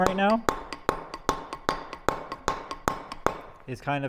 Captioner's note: metal hammering